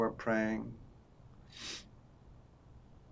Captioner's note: sniffing